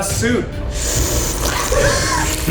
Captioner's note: slurping; laughing